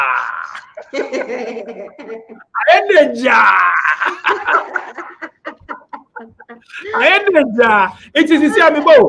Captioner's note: laughs